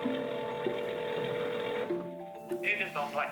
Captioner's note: phone ringing